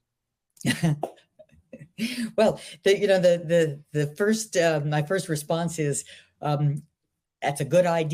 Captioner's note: laughs